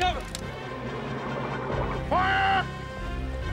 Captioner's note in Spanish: viento silbando